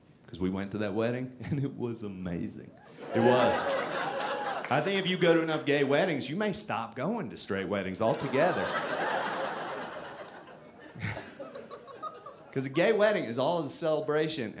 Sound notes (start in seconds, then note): 8.0 audience laughing